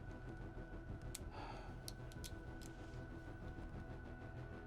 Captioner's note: sighs